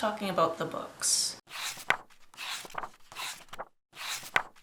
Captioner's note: pages turning